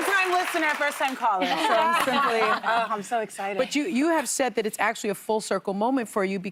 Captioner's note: cheers and applause